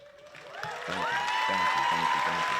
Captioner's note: applause